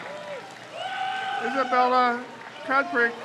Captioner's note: crowd cheers